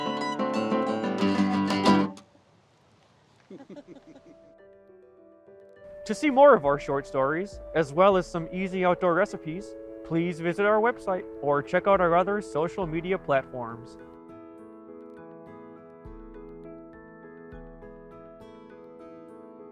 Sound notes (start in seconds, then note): 3.4 both chuckling; 14.4 gentle music